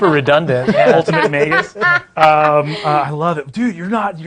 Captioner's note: laughing